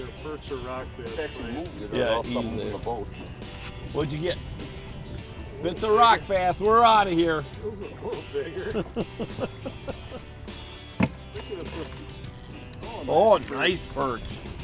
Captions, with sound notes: (upbeat guitar music) What you get? If it's a rock bass, we're outta here. (laughing) Oh, nice perch.